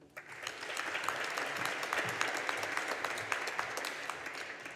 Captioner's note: audience applauding